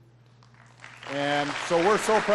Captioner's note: applause